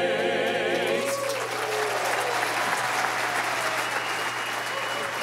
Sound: audience applauding

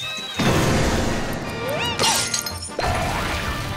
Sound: grunting

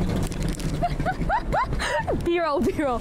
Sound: ha↑ha↑ha↑ha↑ha↑

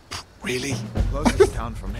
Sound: chuckles

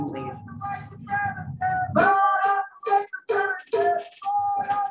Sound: protestors calling out

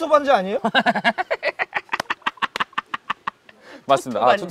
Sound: cracking up

